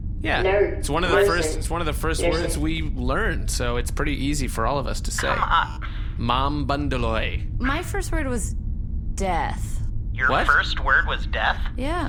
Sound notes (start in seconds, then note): 6.7 enunciating